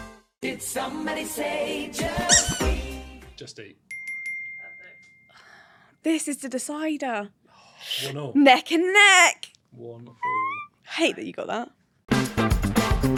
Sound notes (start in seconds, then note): 0.1 jingle music; 2.2 squeak